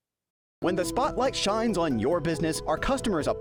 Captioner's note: voice-over